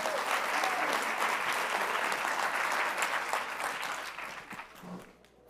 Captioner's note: audience applauds